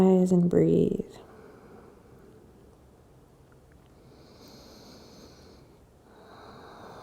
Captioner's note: breathing